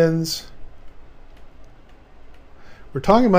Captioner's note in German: Klicken der Tastatur